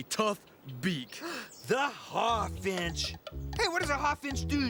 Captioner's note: gasps